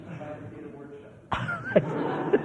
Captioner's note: laughter